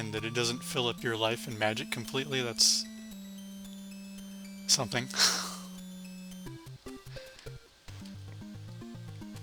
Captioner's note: laughs